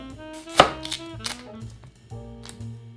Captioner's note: knife cutting